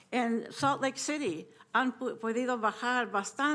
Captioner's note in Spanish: hablando español